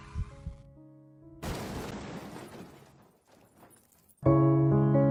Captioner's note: car crashing; somber piano music